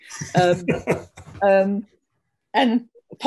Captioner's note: laughs